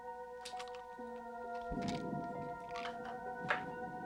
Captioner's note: dramatic music playing; thunder rumbling